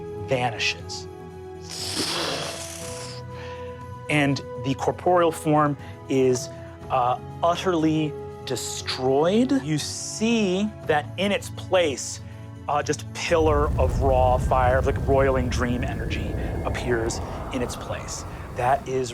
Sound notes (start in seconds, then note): 2.1 mimics air whooshing